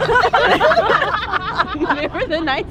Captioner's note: group laughing